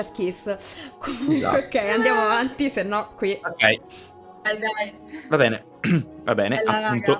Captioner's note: clears throat